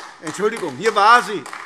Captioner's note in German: Beifall AfD